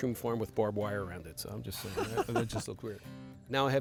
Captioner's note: laughs